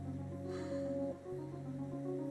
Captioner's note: sighs